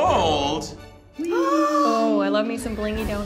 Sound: gasps

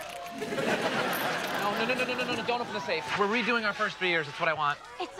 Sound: laugh track

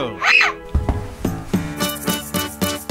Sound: screams

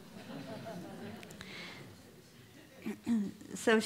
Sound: laughter

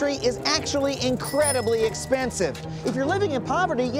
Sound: bicycle bell rings

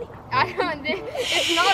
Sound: laughs

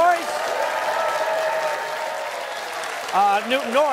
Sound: cheers and applause

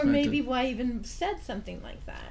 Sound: voiceover

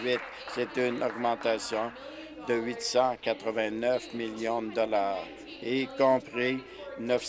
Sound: applause

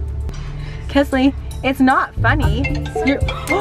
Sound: phone rings; gasps

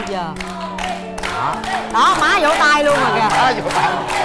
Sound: applause

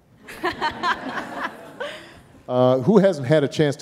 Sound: audience laughing

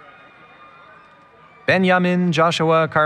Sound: cheering

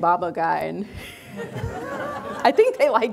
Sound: everyone laughing

